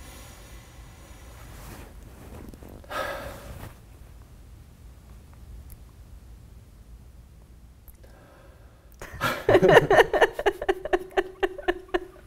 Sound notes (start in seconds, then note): 2.9 sighs; 9.0 both laugh